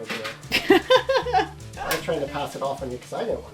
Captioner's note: laughs